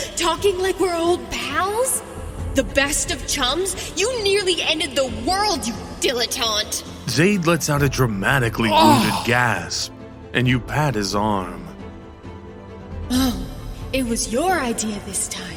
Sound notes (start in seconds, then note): 7.1 Xayd lets out a dramatically wounded gasp and you pat his arm